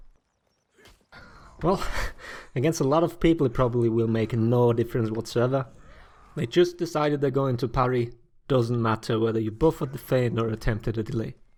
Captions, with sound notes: Well(chuckle), against a lot of people probably will make no difference whatsoever. They just decided they're going to parry, doesn't matter whether you buffered the fan or attempted a delay.